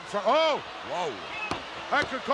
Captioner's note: commentators exclaim